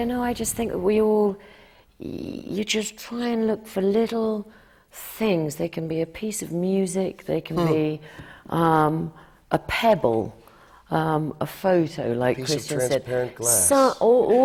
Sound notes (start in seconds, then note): none